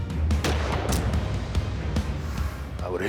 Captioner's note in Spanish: Disparo